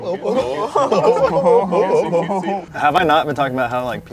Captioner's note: laughing